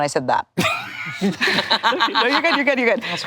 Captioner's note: all laughing